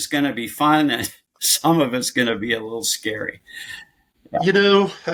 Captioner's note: chuckles